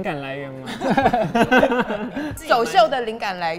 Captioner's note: Laugh